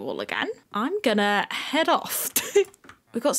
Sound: giggle

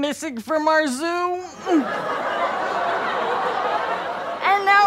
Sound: audience laughter

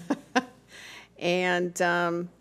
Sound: laughter

